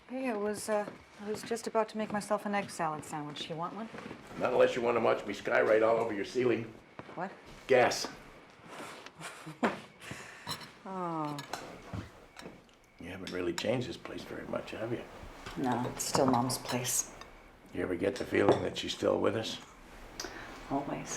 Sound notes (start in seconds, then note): 9.0 laughs